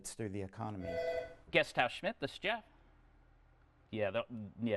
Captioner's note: telephone rings